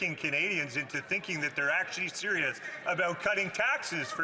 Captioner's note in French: voix de l'interprète